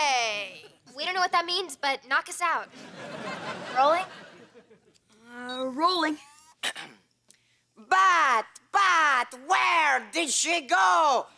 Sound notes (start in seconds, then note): 6.6 clearing throat